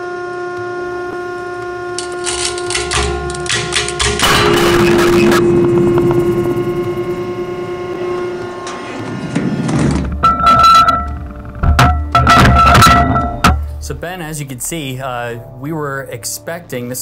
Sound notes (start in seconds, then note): 4.5 cage rattles loudly; 7.2 machine whirring; 10.2 metal clanking